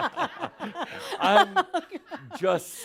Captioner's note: they laugh